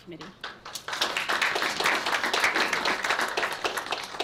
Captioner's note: applause